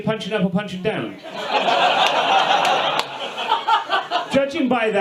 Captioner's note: audience laughs